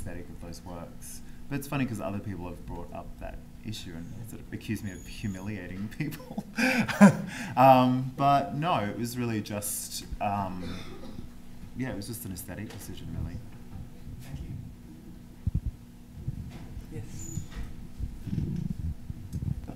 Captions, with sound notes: It's funny 'cause other people have brought up that issue and sort of accused me of humiliating people. [laughs] But no, it was really just-- yeah, it was just an aesthetic position to me. >> Thank you.